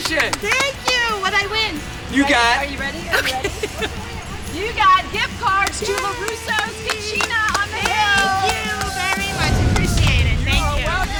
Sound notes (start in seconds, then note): 6.8 cheering